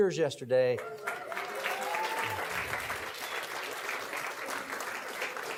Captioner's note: audience clapping and cheering